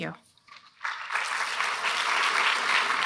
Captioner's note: applause